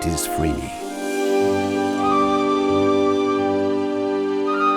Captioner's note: insects chirring